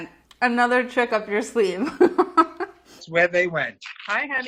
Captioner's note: laughs